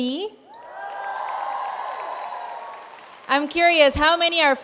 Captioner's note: cheers